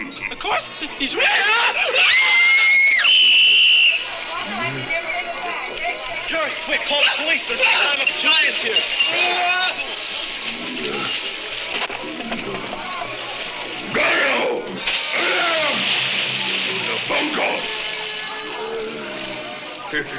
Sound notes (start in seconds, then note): 1.2 screaming; 2.6 whistle blowing; 9.1 yelling; 10.5 grunting; 14.8 water splashing; 17.1 speaking in a foreign language